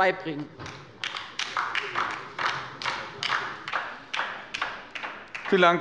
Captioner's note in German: Beifall bei der LINKEN